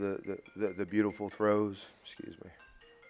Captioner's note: phone Ringing